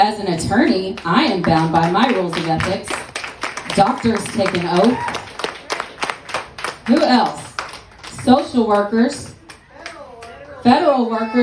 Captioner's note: applause